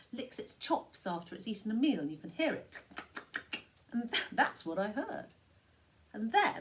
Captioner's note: chomps her mouth